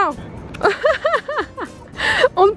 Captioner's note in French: rires